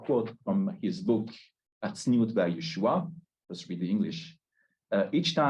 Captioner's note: Hebrew